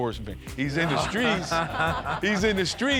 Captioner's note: laughter